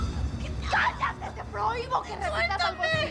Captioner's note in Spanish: Grito